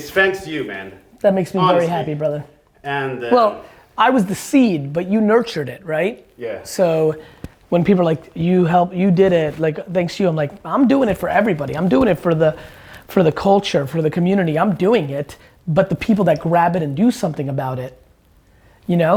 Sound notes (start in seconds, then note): none